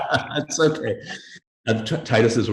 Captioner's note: laughing